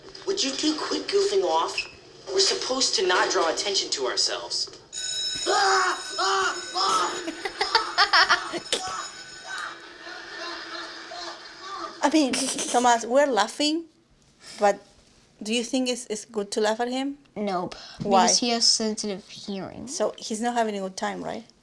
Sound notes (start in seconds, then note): 4.9 bell rings; 6.8 laughter